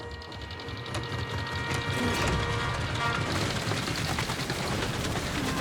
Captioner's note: engine rumbles